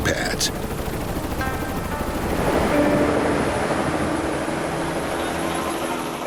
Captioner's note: helicopter blades whirling